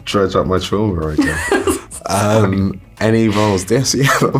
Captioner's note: laughs